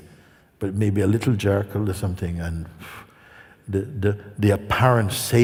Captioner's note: exhala